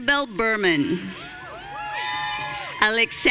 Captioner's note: audience cheering